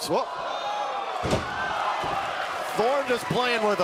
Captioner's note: crowd cheering